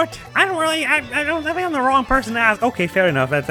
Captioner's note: as Penguin; as Mario